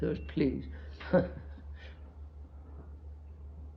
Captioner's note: laughs